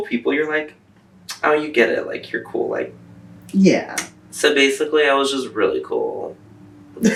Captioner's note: laughter